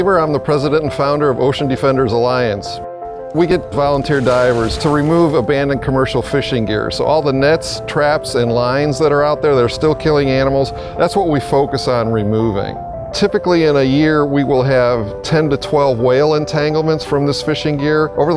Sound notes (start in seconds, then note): 3.4 splashing